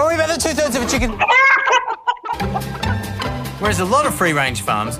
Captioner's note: clucking